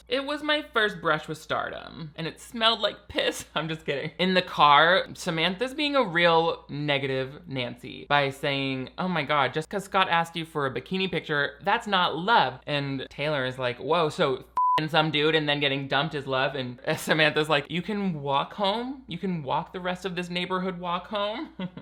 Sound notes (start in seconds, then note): 14.5 beep; 21.5 chuckling